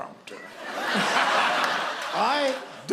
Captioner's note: laughter